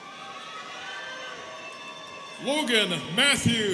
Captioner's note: students cheering